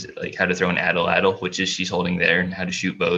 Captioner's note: foreign language